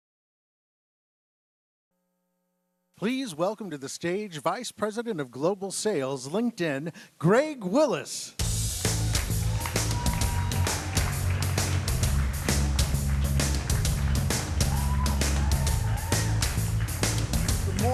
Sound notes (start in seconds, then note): 8.4 audience applauding; 8.4 upbeat instrumental music; 10.2 audience applauding; 10.2 audience cheering; 11.8 audience applauding; 11.8 upbeat instrumental music; 14.9 audience applauding; 14.9 audience cheering